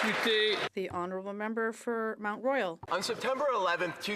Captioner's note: applause